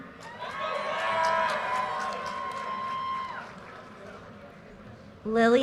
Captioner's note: audience cheers and applause